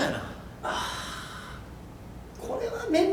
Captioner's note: sighs